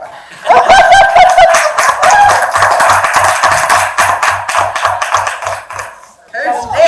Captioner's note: audience clapping